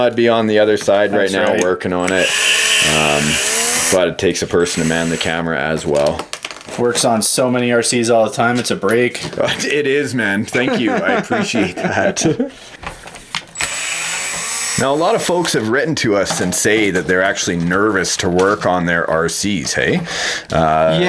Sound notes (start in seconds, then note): 2.0 whirring; 10.4 laughing; 13.5 whirring